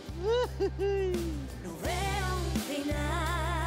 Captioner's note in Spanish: Risas